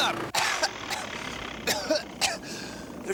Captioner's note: coughing continues